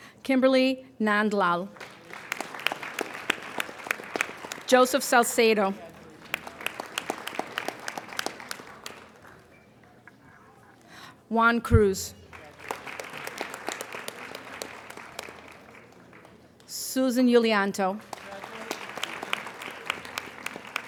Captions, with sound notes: Kimberly Mandlow. (applauding) Joseph Salsedo. (applauding) Juan Cruz. (applauding) Susan Julianto. (applauding)